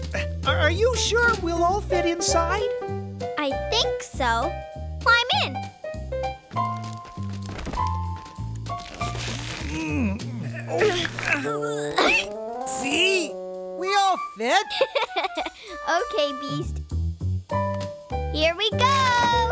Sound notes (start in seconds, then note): 9.4 grunts of effort; 9.5 grunt; 14.7 giggling